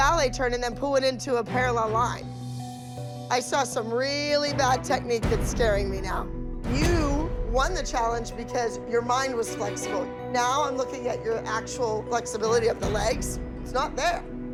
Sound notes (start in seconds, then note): none